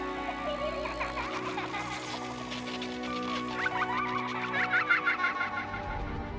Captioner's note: children laughing